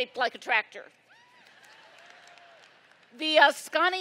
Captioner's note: laughter